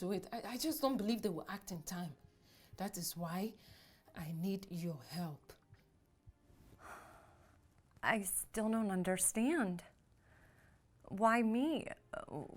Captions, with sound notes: I- I just don't believe they will act in time. That is why I need your help. (Julie sighs) - I still don't understand, why me?